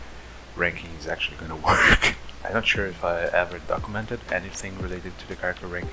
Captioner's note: laughs